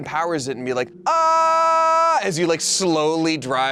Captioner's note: yells